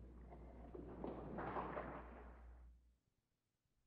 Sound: crowd claps

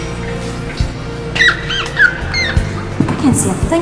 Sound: rat squealing

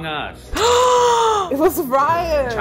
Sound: gasping

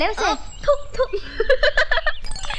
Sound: laughing

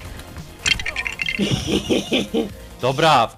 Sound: evil laughter 3

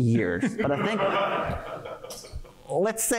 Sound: laughter

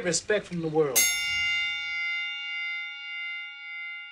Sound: bell rings

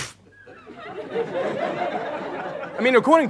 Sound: audience laughs

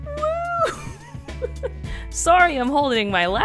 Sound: laughs

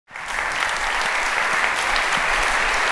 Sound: applause

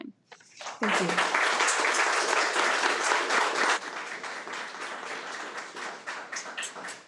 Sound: attendees applaud

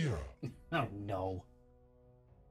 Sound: chuckles

